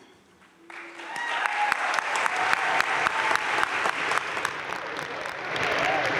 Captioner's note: audience cheering and applauding